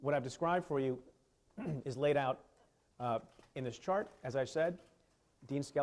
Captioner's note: clears throat